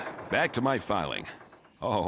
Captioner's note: none